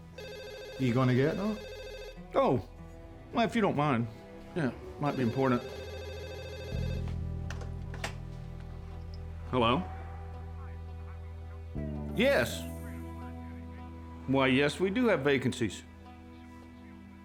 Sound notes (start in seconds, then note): 0.3 scottish accent; 1.6 phone rings; 5.0 phone rings